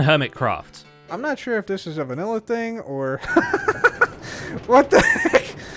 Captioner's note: laughs